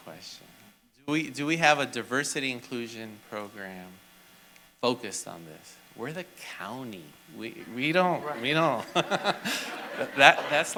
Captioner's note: laughter